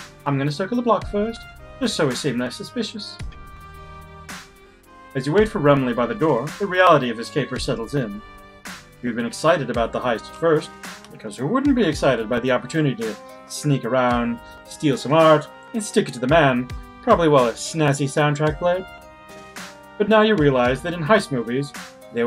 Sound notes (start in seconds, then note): none